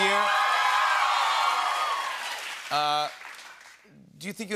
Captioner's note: cheers and applause